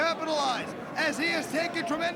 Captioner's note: crowd cheering